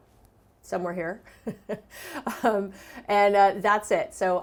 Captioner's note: chuckles